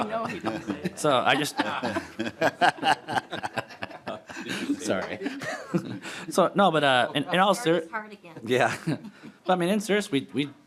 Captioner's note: laughing